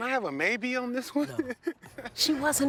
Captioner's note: laughs